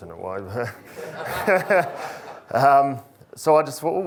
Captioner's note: laughter erupts